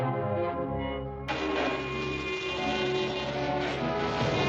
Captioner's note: train horn blaring